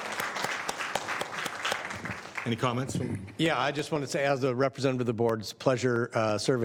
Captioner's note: applause